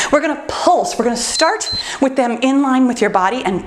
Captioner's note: timer beeps